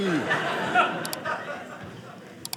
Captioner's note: audience laughing